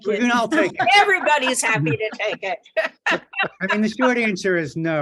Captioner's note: laughs